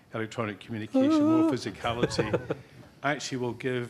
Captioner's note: yawning